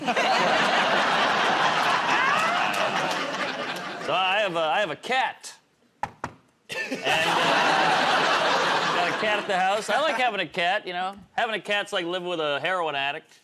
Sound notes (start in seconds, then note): 1.7 laughter; 6.0 knocks on table